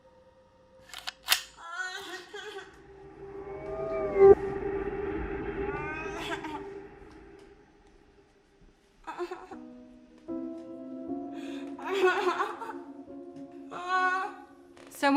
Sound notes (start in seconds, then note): 1.6 viewmaster’s lever clicks. Baby immediately begins to cry loudly; 8.9 crying continues, growing louder and more forceful